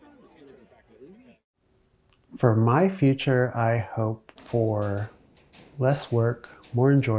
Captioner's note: people chattering